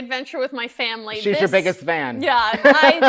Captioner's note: laughing